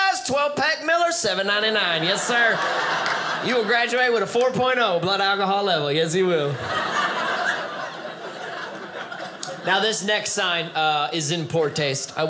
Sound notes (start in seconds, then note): 6.4 audience laughing